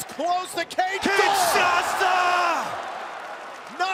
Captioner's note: crowd cheering